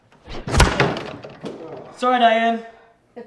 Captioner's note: door slams